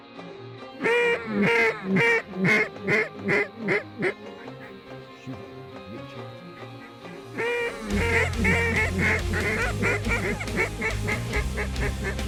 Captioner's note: duck calls